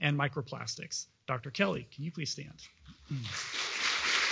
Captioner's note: applause